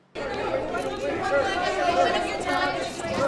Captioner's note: reporters shouting